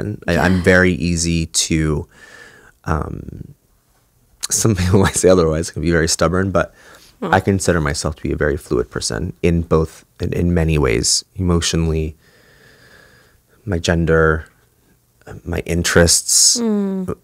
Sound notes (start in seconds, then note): 4.8 chuckle